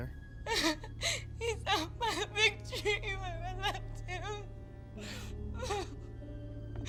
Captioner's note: crying